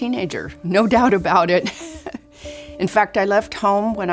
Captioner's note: chuckles